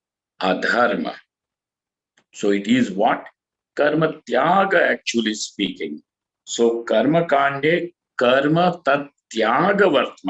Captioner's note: sanskrit